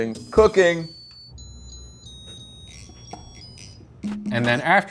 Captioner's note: rice cooker timer chiming